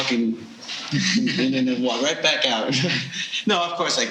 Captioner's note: laughing